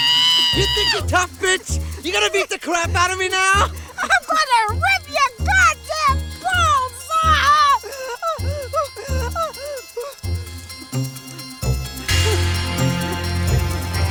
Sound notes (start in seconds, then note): 8.1 Katherine gasps; 12.2 intense music